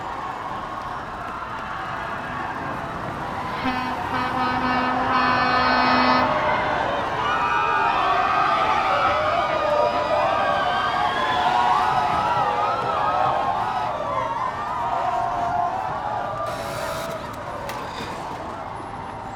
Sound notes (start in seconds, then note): 0.1 people screaming; 3.4 horn sounds; 7.5 people in the truck screams; 16.4 engine starts